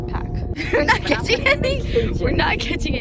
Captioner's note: laughter